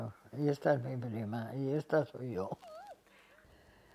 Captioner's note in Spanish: Ríe